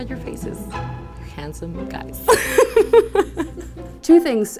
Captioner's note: laughs